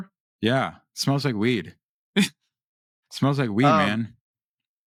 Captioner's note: laughs